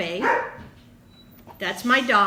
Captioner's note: dog barking